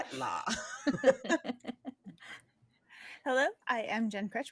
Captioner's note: laughing